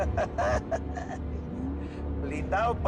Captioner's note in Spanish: Risas